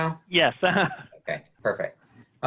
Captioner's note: laughing